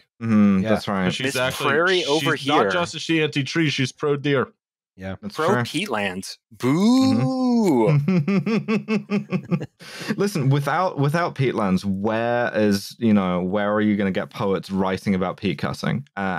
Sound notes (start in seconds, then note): 8.0 laughter